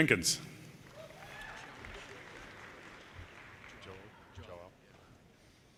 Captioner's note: audience cheers and applause